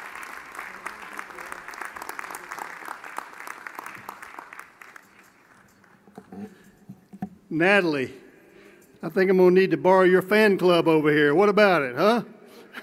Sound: applause

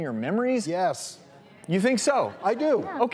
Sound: audience murmuring

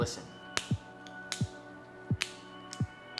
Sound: snapping

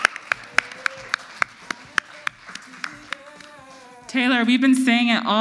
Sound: audience applauds

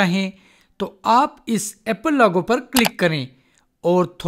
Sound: click

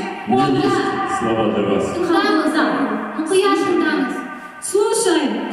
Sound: speaking Russian and Kazakh

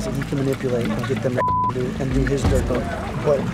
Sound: beep

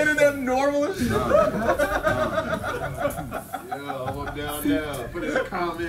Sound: laugh

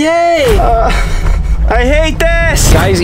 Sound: groans

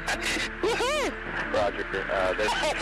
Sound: pilots laugh

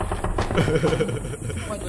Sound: laugh

